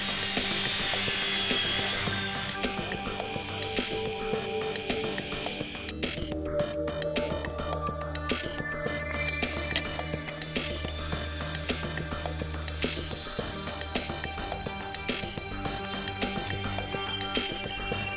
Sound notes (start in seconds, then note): 9.7 clicks